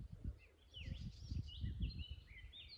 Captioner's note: birdsong